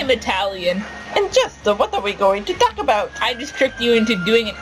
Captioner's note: in an Italian accent